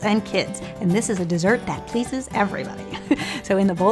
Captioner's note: laughs